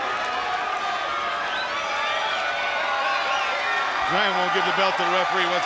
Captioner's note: crowd cheering